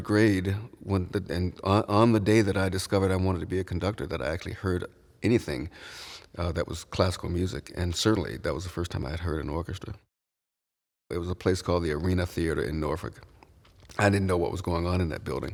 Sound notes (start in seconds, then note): none